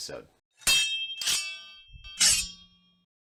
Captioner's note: chime sound